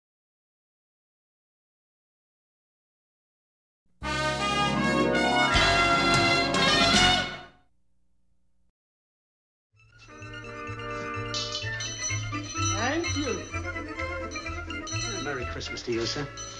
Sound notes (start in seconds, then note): 11.5 bell ringing